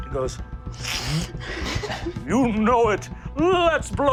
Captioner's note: snorts